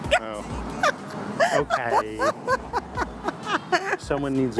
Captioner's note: laughs